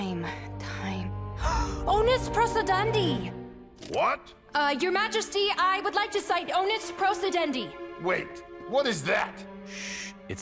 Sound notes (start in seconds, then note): 1.9 gasps